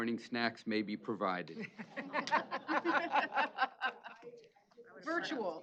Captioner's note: laughter